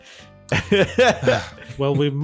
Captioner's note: laughter